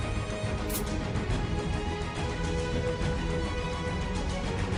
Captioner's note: sword whooshing